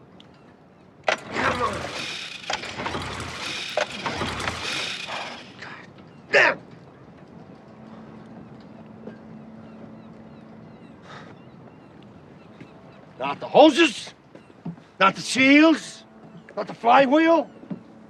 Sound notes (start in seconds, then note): 11.0 sighing